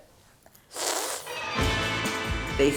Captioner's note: sucks air through teeth